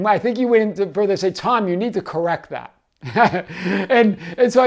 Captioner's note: laughs